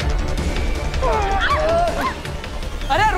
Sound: shrieks

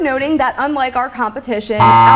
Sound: buzzer ringing

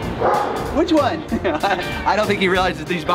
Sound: laughs

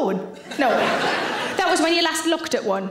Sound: audience laughs

